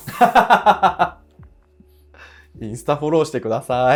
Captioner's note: laughing